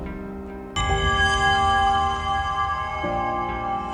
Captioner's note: bell ringing